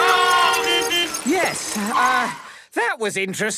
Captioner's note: beeping; whistle blowing